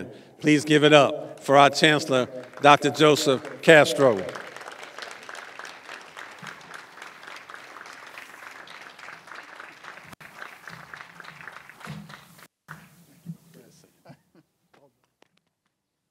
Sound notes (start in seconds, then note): 5.2 applause